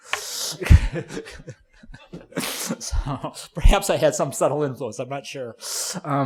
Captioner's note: laughing